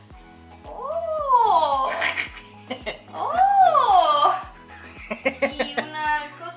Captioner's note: laughter